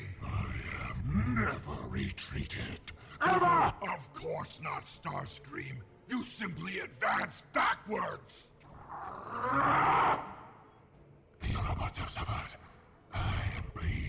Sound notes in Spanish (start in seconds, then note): 8.8 Grunts